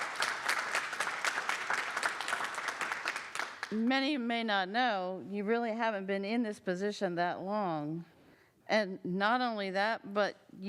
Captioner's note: applause